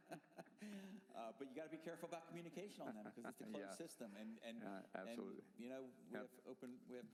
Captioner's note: laughter